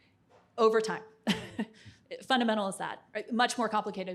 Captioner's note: chuckles